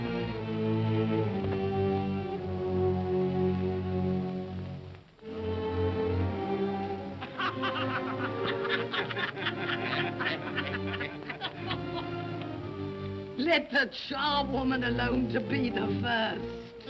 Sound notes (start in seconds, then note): 7.2 all laugh